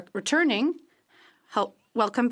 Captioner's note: speaking french